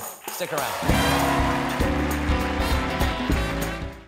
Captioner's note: applause